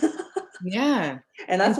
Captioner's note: laughing